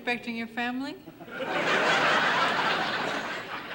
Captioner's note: audience laughing